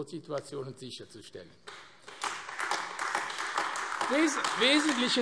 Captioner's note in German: Beifall AfD